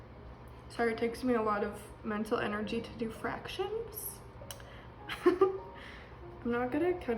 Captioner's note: laughs